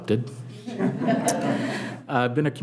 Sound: audience laughing

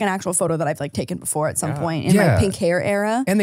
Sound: laughs

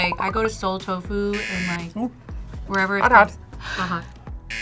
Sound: buzzer; buzzer

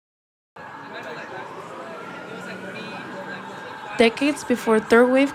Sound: city life bustling

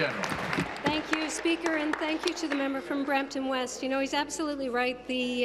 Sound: applause

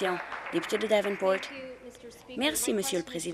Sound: applause

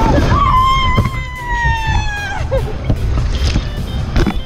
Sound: shrieks

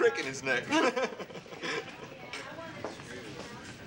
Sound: boys laugh

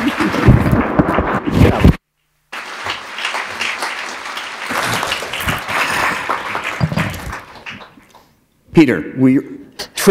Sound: applause

